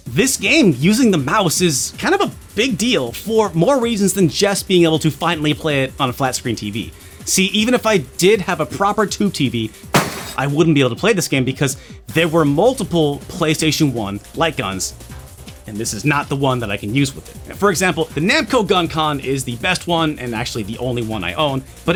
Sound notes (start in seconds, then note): 9.9 crash!